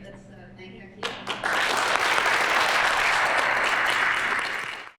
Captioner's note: applause